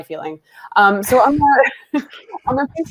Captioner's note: laughs